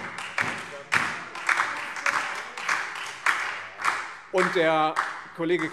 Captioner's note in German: Beifall Freie Demokraten, SPD und DIE LINKE